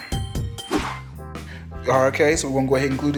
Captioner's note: air whoosing